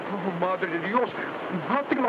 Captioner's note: speaks in foreign language